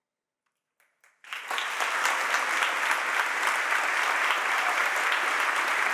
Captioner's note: audience applauding